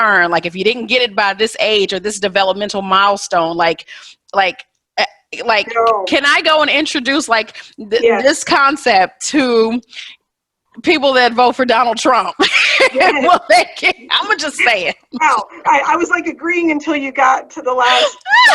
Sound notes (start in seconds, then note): 12.5 laughs; 18.3 all laughing